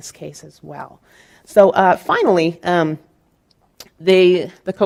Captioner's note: speaking in Spanish